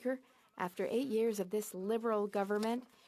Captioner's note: speaking French